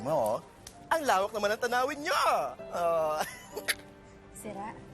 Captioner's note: giggles